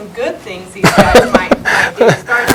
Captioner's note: chuckles